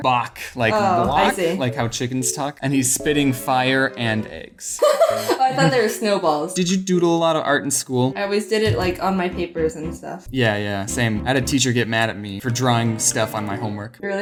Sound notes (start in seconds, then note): 4.8 laughs